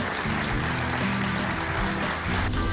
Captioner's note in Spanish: aplausos